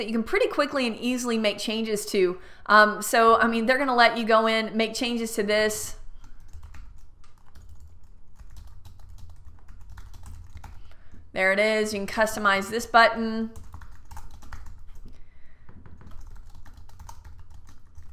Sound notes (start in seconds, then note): 6.1 typing on keyboard; 13.7 typing on keyboard